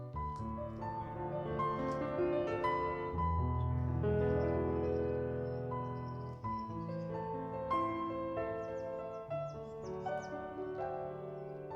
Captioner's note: birds sing and gravel crunches